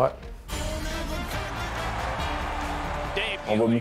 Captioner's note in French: clameur